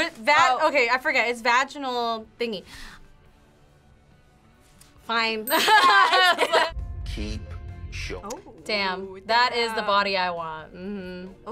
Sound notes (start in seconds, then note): 5.6 laughs